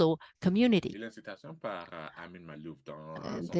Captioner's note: speaking french